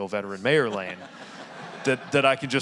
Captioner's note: audience laughing